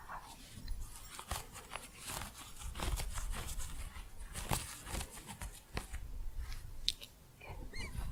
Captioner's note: faint bells jingling, crunchy scratching